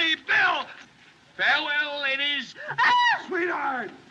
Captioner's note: screams